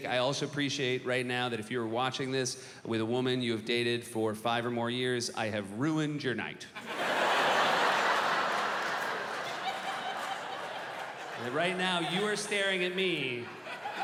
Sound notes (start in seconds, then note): 6.7 laughter